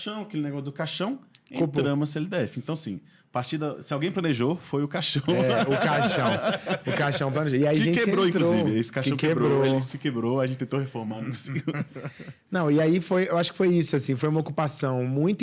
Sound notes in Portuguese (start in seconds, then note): 5.2 risadas; 11.3 risadas